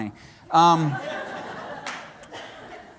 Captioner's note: laughter